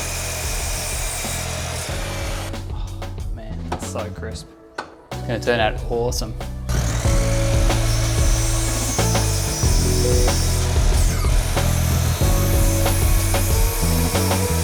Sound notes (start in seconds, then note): 0.0 saw whirring; 6.6 saw whirring; 6.9 chill music